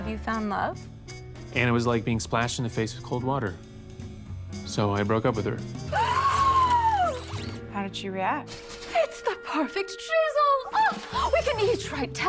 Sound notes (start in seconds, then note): 4.6 gasps